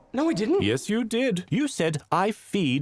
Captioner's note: voiceover